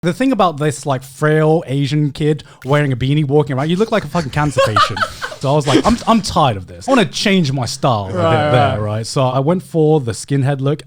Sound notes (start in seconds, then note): 5.2 laughing